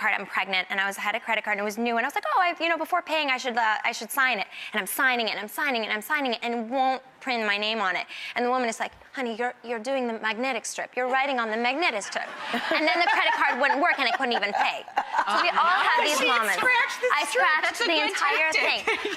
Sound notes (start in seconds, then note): 12.5 audience laughter; 14.9 laughter